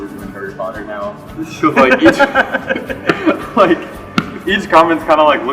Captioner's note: laughter